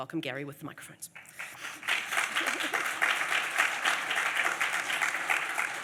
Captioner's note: audience applauds